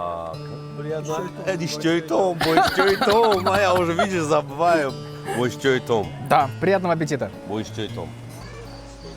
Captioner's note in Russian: говорит приятного аппетита по-таджикски